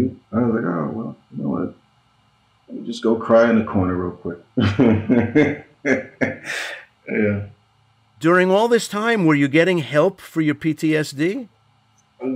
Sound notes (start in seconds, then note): 4.6 laughing